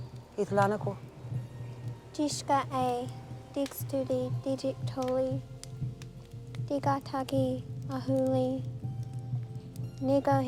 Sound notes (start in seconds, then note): 2.3 speaking Cherokee